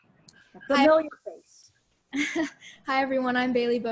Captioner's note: giggling